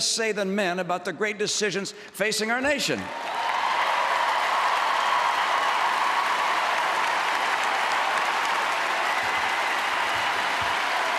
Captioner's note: applause